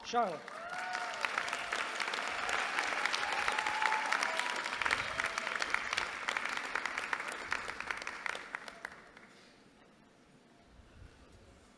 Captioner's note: applause